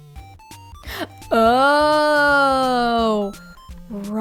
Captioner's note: gasp